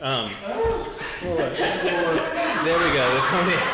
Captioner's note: laughing